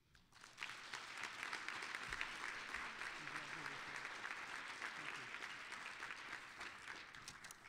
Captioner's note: applause